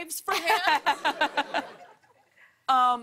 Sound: laughter

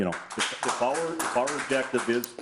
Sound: audience clapping

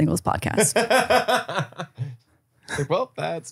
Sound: laughing

